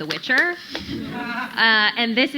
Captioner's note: audience laughing